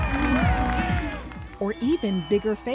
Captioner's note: crowd cheering